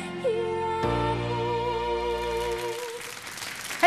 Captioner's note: audience applauds